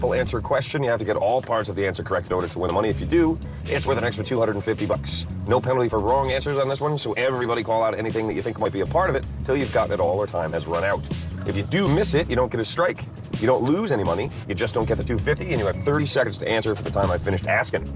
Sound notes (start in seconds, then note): none